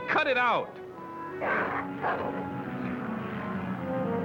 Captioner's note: growling